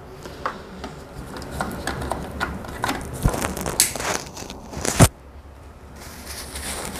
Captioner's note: damper noise